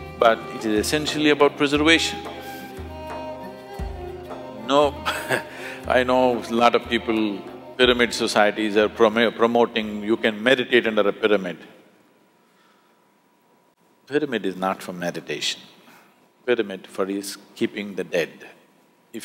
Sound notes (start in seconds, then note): 4.9 laughs